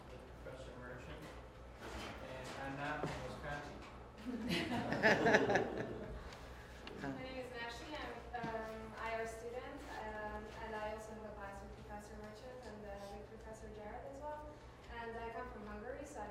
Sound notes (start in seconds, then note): 4.2 laughter